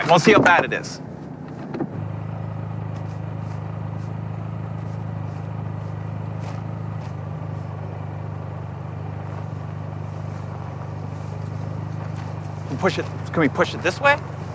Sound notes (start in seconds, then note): 1.9 engine rumbling